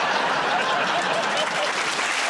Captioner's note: laughter; applause